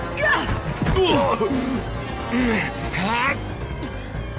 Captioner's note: scientist grunting